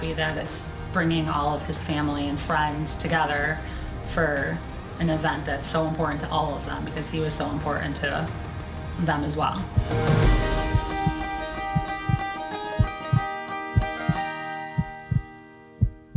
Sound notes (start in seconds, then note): 9.9 upbeat music; 11.3 beating